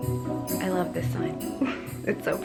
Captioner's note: chuckles